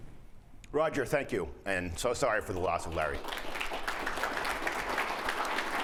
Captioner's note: applause